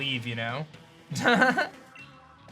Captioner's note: laugh